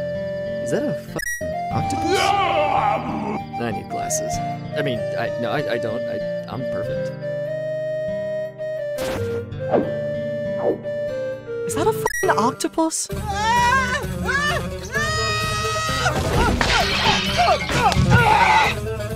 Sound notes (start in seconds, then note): 2.4 ROCTOPUSSY growls; 13.2 LINK screaming, music turns urgent; 16.0 crashing and breaking